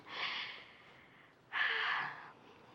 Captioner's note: sighs